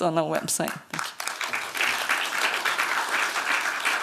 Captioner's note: applause